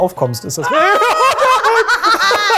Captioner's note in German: Gebanntes Lachen